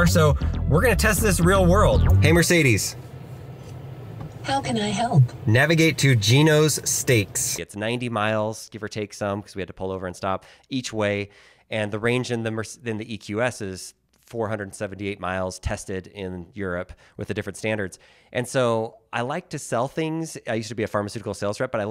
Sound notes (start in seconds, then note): 4.5 automated Voice